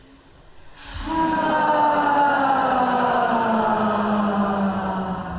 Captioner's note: loud sighing